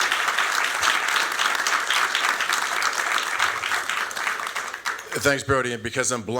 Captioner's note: applause